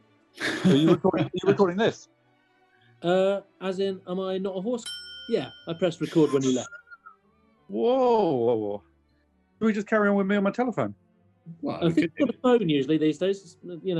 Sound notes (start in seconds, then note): 0.4 laughs; 4.8 ding!